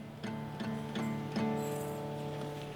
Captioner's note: chains clinking